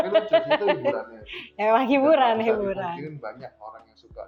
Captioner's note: laughs